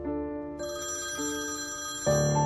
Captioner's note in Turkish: Telefon çalıyor